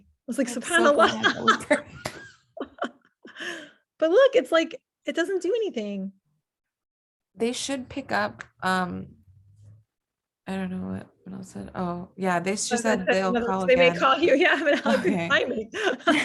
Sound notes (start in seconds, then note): 3.3 both laughing